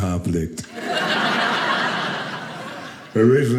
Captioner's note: audience laughing